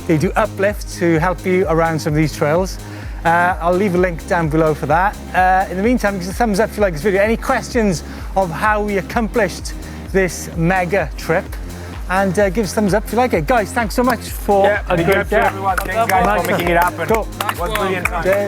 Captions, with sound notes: They do uplifts to help you around some of these trails. I'll leave a link down below for that. In the meantime, give us a thumbs up if you like this video, any questions of how we accomplished this mega trip, and give us a thumbs up if you like it. Guys, thanks so much a great day. (chattering and clapping) - Thanks, guys, for making it happen. - Nice one.